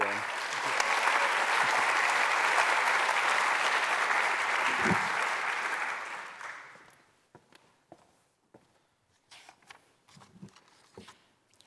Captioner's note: applause